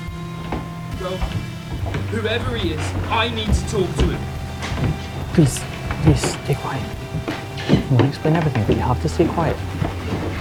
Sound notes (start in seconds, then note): 4.0 footsteps above